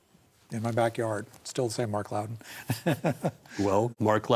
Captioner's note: laughs